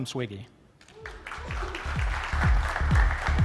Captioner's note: applause